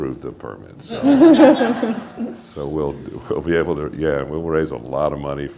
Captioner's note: laughter